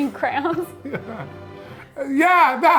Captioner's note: laughing; chuckling